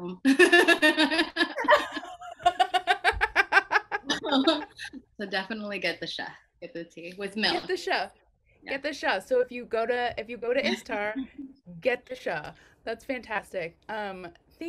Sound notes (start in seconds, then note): 2.2 both laughing